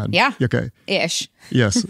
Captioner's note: laughs